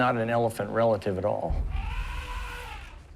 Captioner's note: elephant trumpets